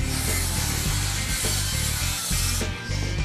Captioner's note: saw buzzing